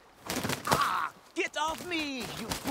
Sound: squak

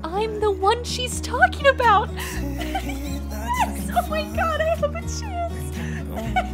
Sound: giggles with excitement; gasps

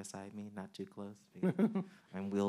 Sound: man chuckling

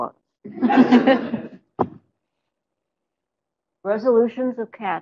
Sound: laughter

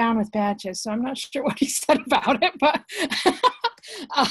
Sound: laughs

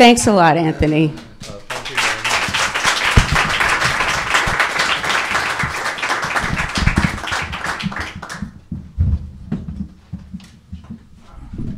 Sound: applause

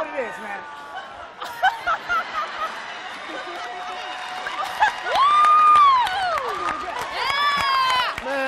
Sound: applause

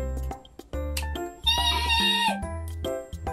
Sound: screaming

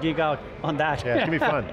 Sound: laughs

